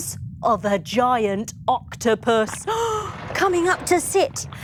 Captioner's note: sighing in shock